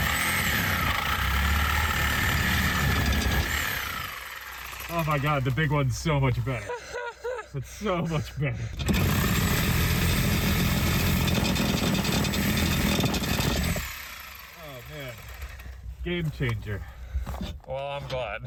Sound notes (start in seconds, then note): 0.0 more powerful saw sounds; 8.6 new saw quickly cutting though old pipes